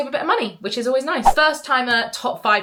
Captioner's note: screen fwipping